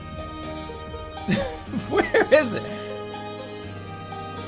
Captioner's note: laughing in frustration